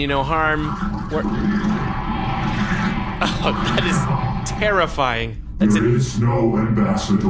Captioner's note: scuttling/roaring noise